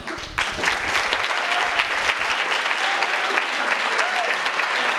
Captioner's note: audience applauds and cheers